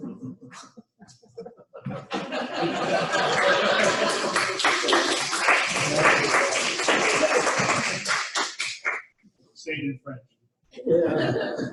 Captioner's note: laughter and clapping